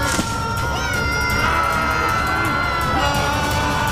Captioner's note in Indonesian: berteriak